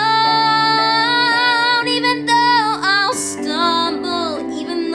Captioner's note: none